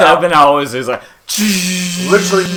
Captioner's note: minigun fire